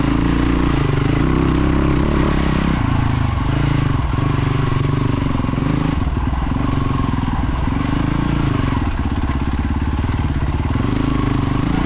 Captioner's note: engine revving